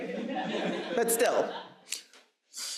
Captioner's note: audience laughs